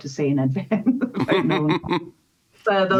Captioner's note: laughter